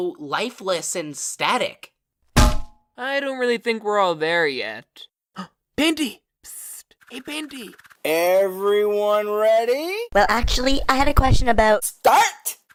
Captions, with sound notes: lifeless and static? [DONK] -I don't really think we're all there yet. [GASP!] Painty! Pssssst! Hey Painty!! -EVERYONE READY? -Well, actually, I had a question about-- -START!